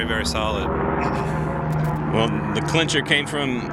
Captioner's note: plane engine rumbling